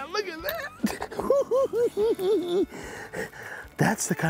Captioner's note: cackling